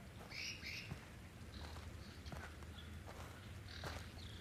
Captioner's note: bird chirping